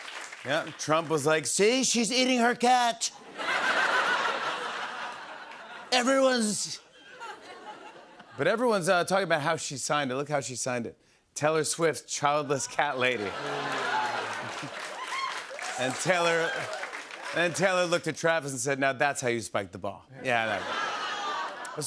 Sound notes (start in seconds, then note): 0.0 cheers and applause; 3.2 laughter; 13.0 laughter, cheers, applause; 20.3 laughter